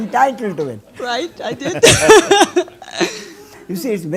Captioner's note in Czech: smích